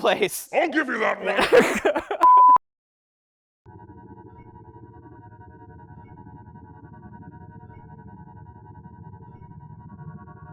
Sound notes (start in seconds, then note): 0.0 laughs; 3.6 beeping